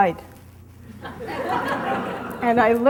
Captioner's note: audience laughing